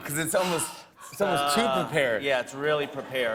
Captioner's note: laughter